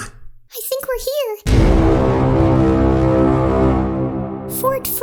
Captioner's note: foghorn